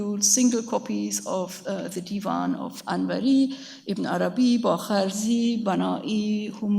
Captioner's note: speaks in a foreign language